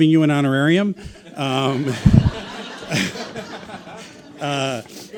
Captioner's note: audience laughing